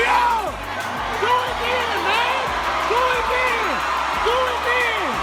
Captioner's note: crowd begins cheering